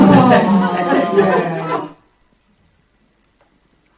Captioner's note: laughter